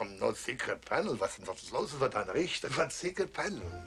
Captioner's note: speaking German